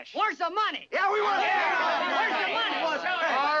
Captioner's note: townsfolk clamoring